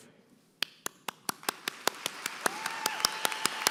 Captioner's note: applause